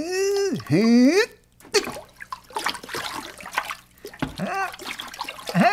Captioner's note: splash